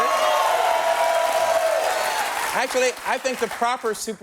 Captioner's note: cheers and applause